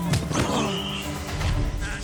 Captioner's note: whistle blows